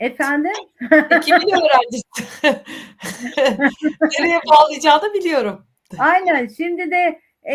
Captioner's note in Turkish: kahkaha